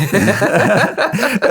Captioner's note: laughing